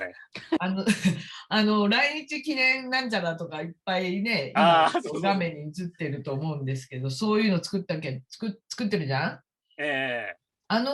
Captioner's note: haha